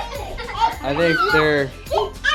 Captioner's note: children laughing with excitement